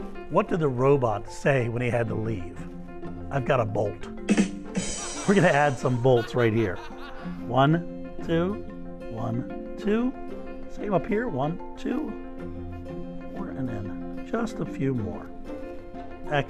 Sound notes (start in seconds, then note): 4.3 rim shot; 4.8 audience laughing